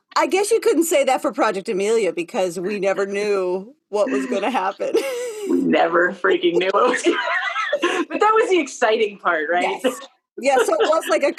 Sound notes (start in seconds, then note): 6.4 laughter